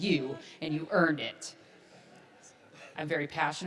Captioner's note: audience laughs